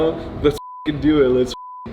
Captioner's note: beep